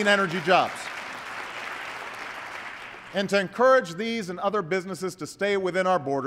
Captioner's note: applause